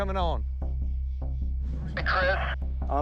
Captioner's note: over walkie